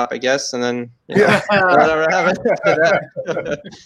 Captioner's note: all laugh